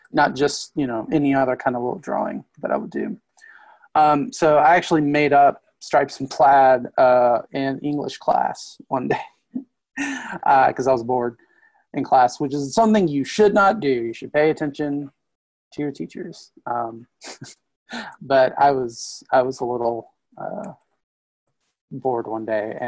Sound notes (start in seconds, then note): 10.0 laughs; 17.2 laughs